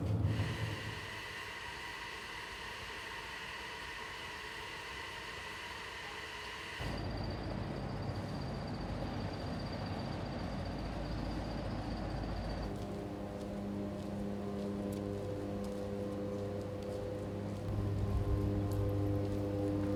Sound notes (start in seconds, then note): 0.2 steam hissing from smokestack; 7.0 tractor squeaks; 13.0 power lines humming